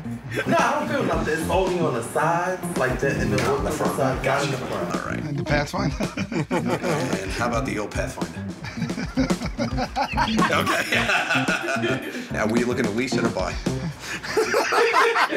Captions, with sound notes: No, I'm good about this. Only on the sides in the... "Pathfinder." And how about the ol' Pathfinder? [ Laughter ] Okay. [ Laughs ] Now, were you looking to lease or to buy? [ Laughter ]